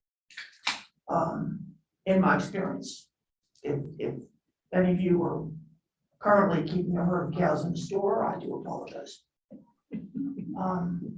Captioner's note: laughter